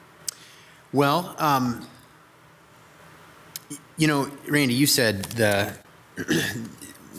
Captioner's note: clears throat